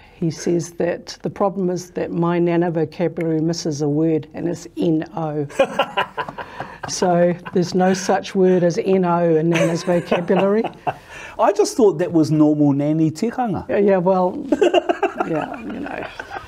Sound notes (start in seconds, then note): 9.5 laughs